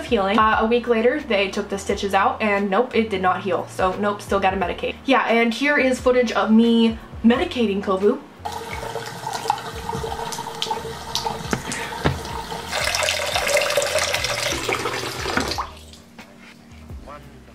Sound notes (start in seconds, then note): 8.4 water faucet running; 15.5 soft music